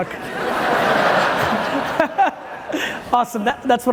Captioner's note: audience laughing loudly